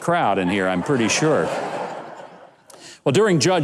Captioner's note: audience laughs